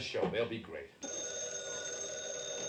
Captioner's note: phone rings